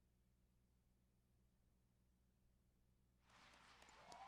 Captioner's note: cheers and applause